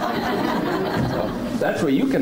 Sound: laughing

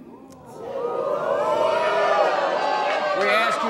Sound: audience gasps

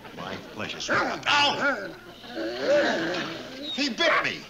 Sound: dog growls

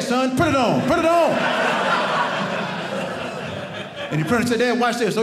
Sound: audience laughing

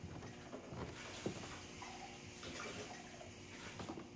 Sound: water running

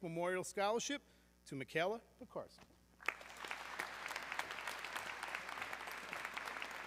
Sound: audience clapping

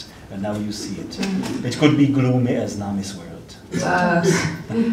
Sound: laughs

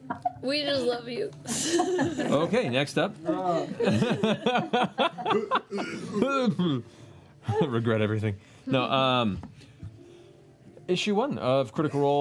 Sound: laughs

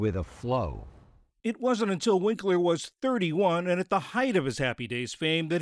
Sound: voice-over

